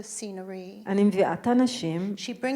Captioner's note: speaking in foreign language